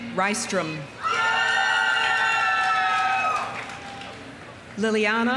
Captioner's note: audience cheering; audience applauding